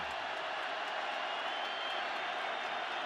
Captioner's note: crowd cheering